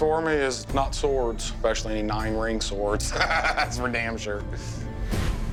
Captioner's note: laughs